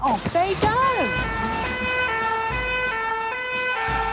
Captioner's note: siren sounding